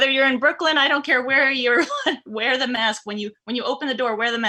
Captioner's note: chuckles